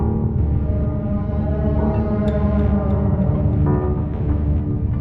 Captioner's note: Aerozoan subsonic moan